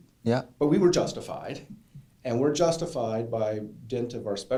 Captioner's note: voiceover